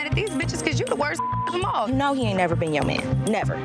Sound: beep

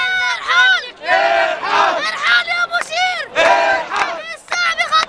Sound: chants

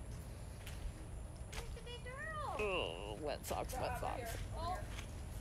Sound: chatter

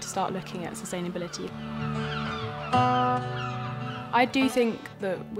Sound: seagull calls continue

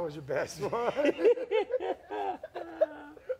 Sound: laughing

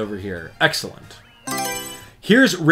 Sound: Mario Selection Sound

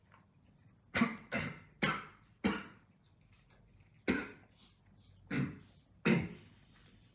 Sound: coughy-coughy choky-choky

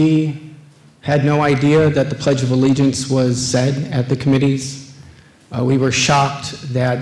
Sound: none

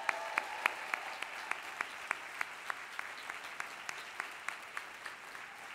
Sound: applause

